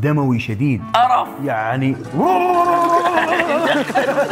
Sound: ululating; laughing

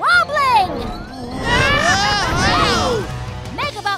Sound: yelling

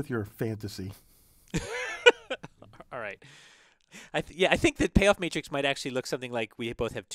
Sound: laugh

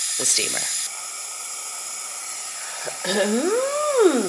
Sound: air hissing; person humming

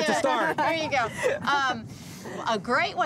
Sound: laughing

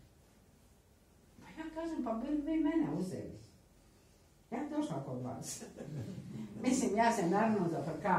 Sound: laughter

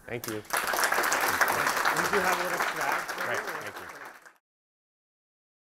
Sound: audience clapping

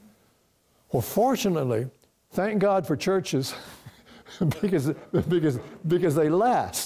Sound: chuckling

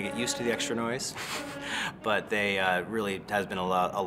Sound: laughs

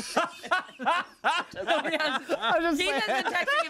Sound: everyone laughs

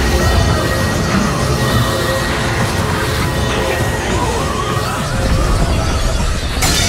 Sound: loud off-tune scream; cracking

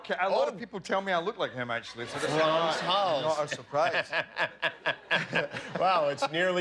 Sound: laughter

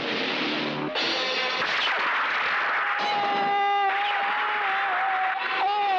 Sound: gunshots; groans

